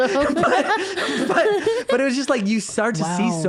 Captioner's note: laughing